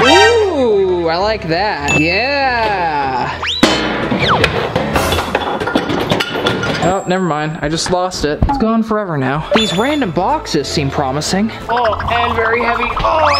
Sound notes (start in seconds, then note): 4.4 sound of metals